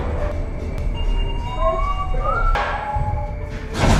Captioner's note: whistle